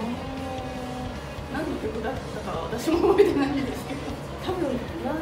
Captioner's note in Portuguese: risos